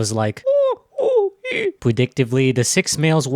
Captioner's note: chimp noise